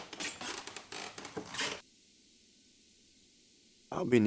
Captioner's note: none